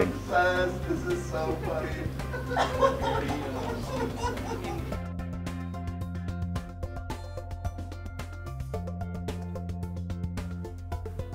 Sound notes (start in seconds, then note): 2.1 chortles